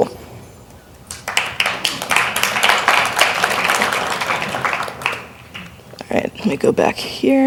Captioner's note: applause